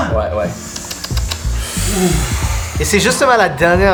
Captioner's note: they breathe heavily